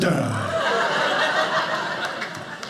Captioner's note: audience laughing